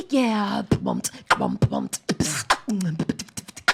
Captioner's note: beatboxing